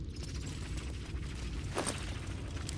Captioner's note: none